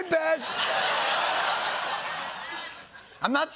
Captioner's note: laughter